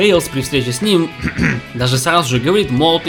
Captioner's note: ahem